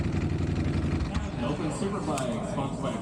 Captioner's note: engine roaring